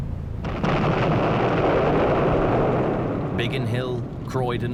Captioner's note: bomb exploding